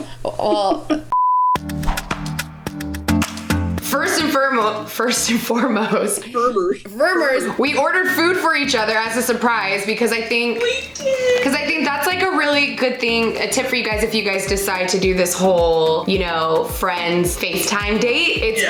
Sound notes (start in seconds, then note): 1.6 calm music; 6.0 makes funny noises